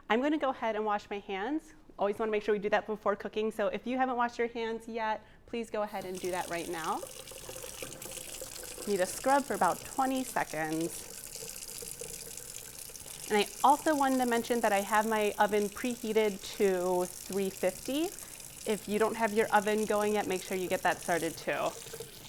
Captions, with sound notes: I'm gonna go ahead and wash my hands. Always wanna make sure we do that before cooking. So if you haven't washed your hands yet please go ahead and do that right now. (water drizzles) Need to scrub for about 20 seconds. (water drizzles) And I also wanted to mention that I have my oven pre-heated to 350. If you don't have your oven going yet, make sure you get that started too.